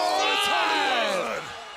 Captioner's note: crowd chatter